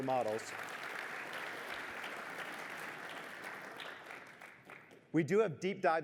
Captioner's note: applause